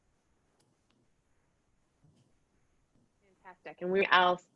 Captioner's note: silence